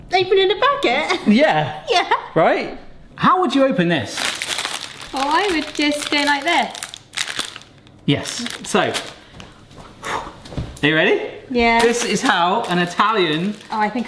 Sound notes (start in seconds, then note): 1.0 laughs; 4.1 packet rustling; 10.0 exhales sharply